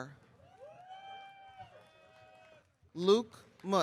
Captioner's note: audience cheering